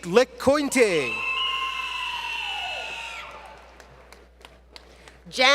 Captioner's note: screams From Audience